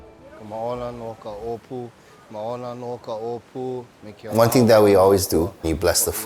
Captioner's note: speaking foreign language